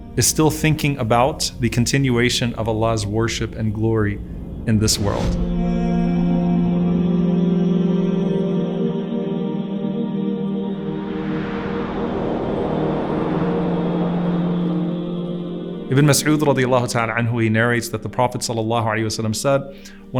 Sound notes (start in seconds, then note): 4.9 calm music; 10.4 wind blows